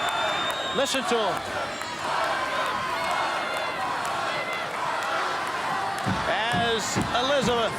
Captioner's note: applause